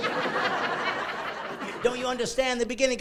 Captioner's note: laughing